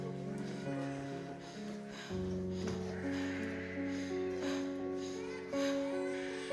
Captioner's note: Abby pants; baby cries